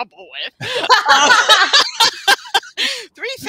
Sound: all laughing

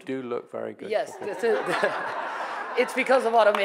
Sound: audience laughing

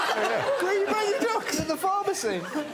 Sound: indistinct chatter

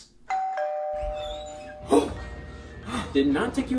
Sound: doorbell rings

